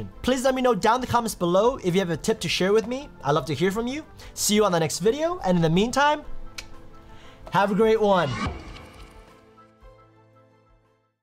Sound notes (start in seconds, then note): 6.6 clicks tongue